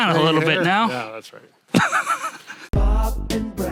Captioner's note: chuckling